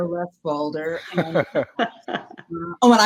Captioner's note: all hosts laughing